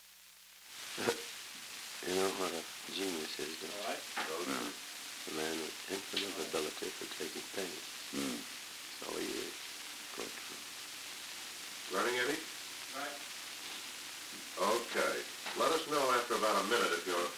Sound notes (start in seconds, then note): 1.9 Truman, speaking low; 4.2 Murrow, speaking low; 11.8 production chatter